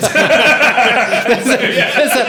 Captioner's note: laughing